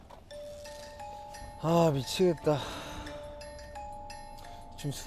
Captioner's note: just sighing away